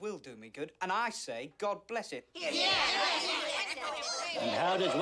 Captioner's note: bookkeepers cheer